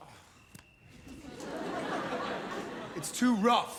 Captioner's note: audience laugh